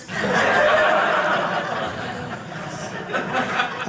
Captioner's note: audience laughing